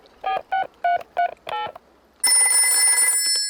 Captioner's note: dialing; rings